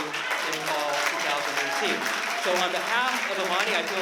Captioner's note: applause